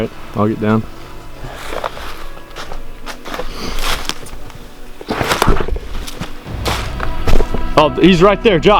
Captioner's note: sound of walking